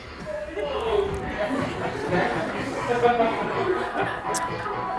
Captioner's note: crowd laughing; upbeat music